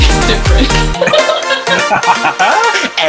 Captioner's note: shared laughter